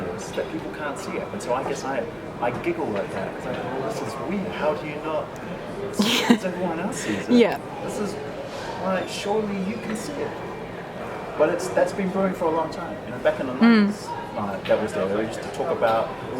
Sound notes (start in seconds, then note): 6.0 laughs